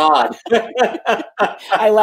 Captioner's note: laughs